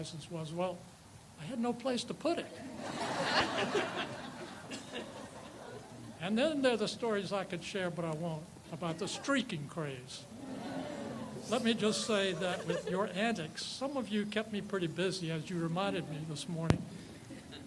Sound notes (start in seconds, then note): 2.6 audience laughs; 10.2 people exclaim; 10.2 people chuckle; 17.2 people laugh